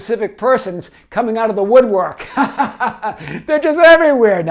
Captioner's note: laughs